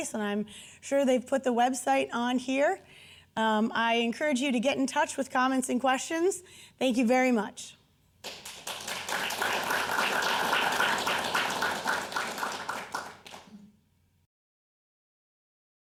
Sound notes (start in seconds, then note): 8.2 audience applauding